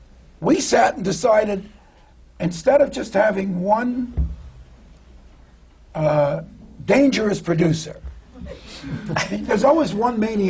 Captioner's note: laughter